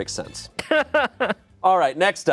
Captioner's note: laughs